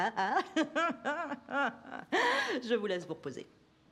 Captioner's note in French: rire